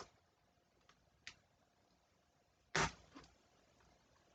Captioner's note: ripping of packaging tape